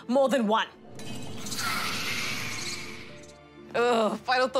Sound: spider hisses and chitters

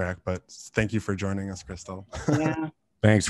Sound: laughs

